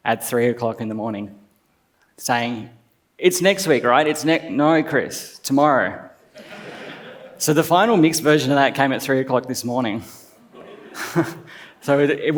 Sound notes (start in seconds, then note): 6.4 laughs; 10.5 laughs